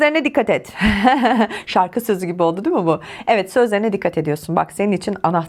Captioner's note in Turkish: kahkaha